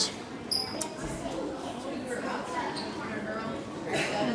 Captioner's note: students chattering